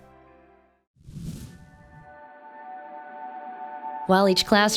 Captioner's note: air whooshing